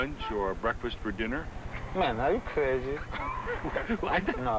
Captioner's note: laughs